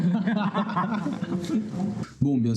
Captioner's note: laughs